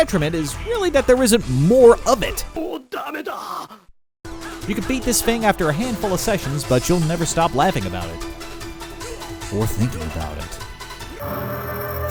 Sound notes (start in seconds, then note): 2.6 speaking Japanese